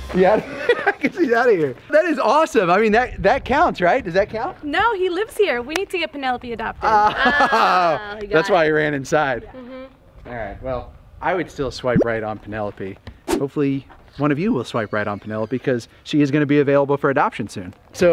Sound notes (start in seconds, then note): 0.4 laughing; 7.1 laughing